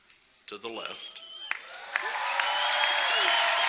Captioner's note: applause